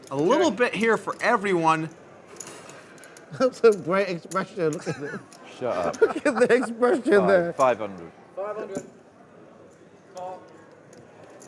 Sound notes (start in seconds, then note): 4.7 laughing